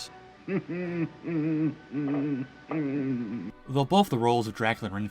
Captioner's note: crazy Laughter